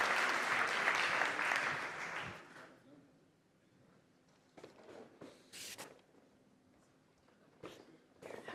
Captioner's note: applause